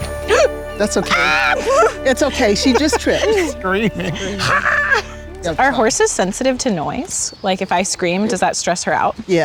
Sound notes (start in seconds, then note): 0.9 screams; 1.4 gasps; 3.9 laughs; 4.4 screams